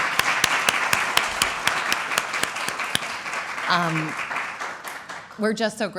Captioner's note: applause